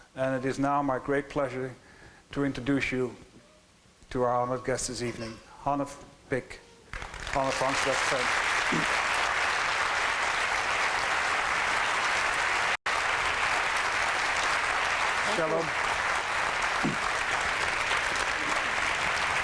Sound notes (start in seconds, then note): 6.9 applause